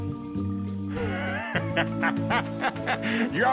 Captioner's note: laughing